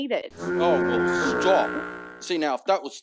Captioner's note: honking